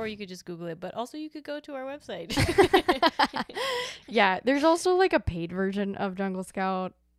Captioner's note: both laugh